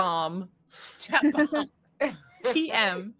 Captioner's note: laughing